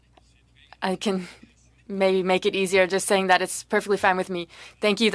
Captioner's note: speaking French